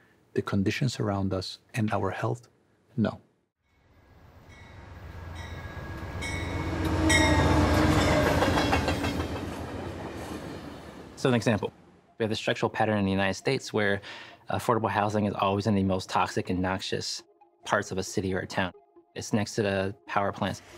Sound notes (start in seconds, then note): 2.3 train clanging